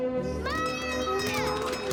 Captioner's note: chatter